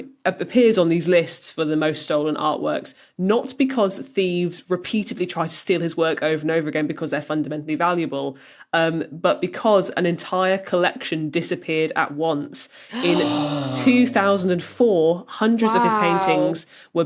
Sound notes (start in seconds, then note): 12.8 guessers gasp